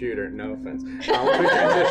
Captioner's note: laughter